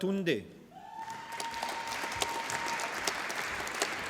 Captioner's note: applause